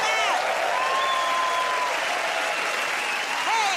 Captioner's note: cheers and applause